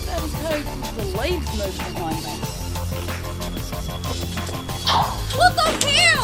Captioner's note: swish